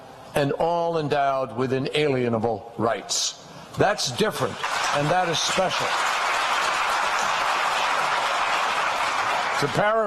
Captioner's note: applause